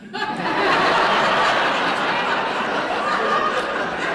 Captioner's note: laughter